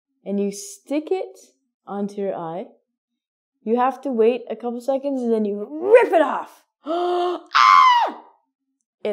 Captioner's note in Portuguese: Gritos